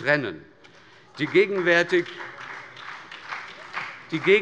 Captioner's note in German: Beifall bei der SPD und bei Abgeordneten der FDP